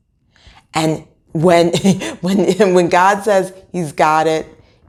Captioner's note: woman laughing